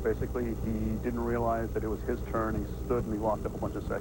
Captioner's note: none